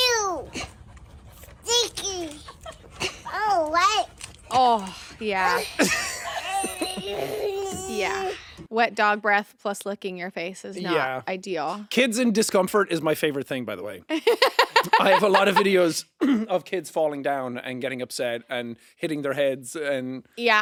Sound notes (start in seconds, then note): 5.6 Jacksepticeye chuckling; 6.4 baby whining; 14.1 laughing